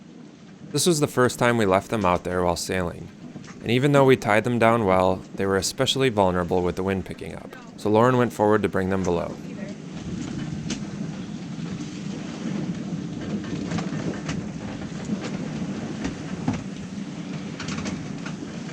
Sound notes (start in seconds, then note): 10.8 wind; 14.6 wood creaking